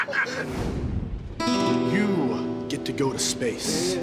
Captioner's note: laughter